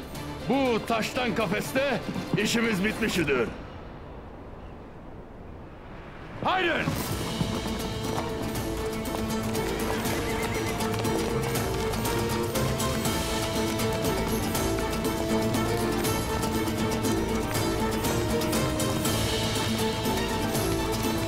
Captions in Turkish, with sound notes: Bu taştan kafeste işimiz bitmiştir! Hadi! (Müzik - Heyecanlı) (At kişneme sesi)